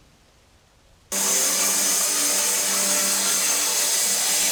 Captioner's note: saw whirring